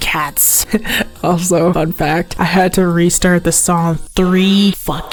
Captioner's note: painful laugh